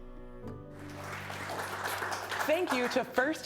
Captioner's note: audience applauding